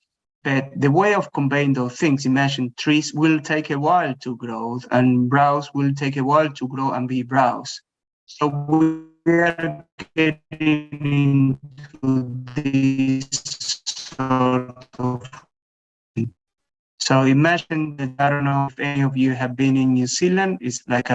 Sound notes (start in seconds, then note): 9.8 warped speech